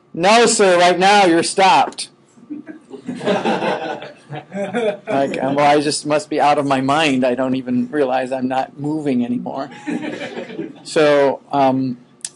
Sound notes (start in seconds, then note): 2.5 students laughing; 9.7 students laughing